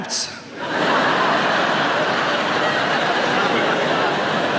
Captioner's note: audience laughs